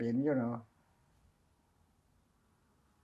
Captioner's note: pauses 6 seconds